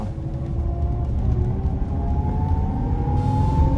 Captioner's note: engine roaring